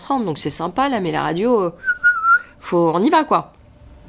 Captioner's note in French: sifflements